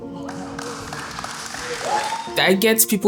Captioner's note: applause